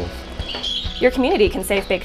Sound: birds chirping

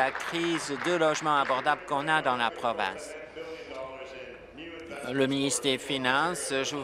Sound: applause

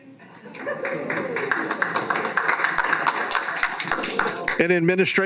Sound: laughing and applause

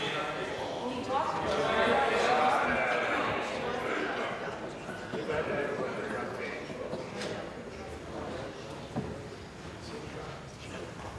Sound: conversation din

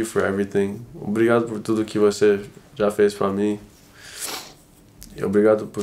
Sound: speaking in foreign language

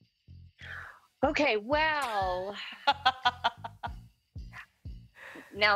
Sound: laughs

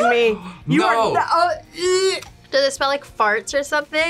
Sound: gags

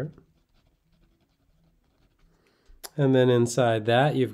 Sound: pen scratching

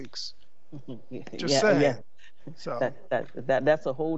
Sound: chuckles

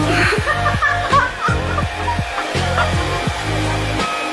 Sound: hahaha

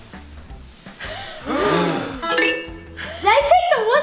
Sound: gasping sounds

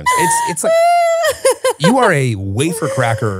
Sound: laughs

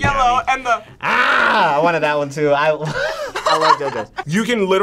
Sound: both laugh

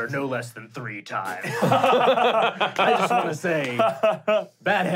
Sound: laughing

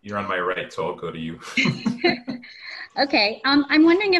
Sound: laughter

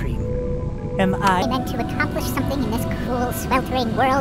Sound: tape fast forwarding

